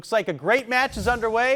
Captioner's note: text whooshing